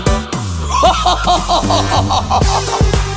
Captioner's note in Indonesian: Tertawa